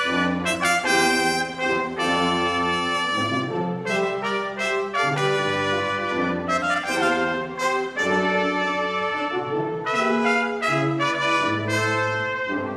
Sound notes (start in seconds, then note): none